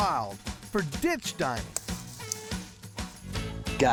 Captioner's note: snapping, cutting sound